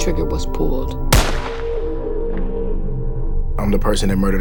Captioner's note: gunshot sound